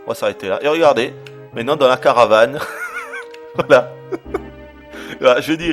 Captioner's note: laughter